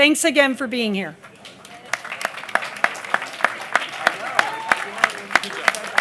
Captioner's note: applause